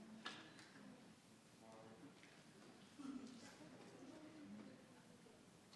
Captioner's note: crowd chattering continues